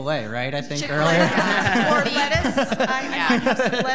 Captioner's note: audience laughing